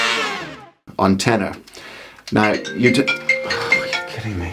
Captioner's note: phone rings